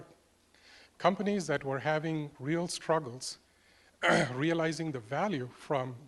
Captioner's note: cough